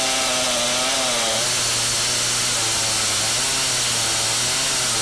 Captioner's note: chainsaw humming